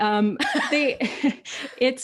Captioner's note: chuckles